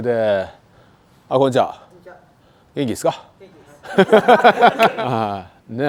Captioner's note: laughs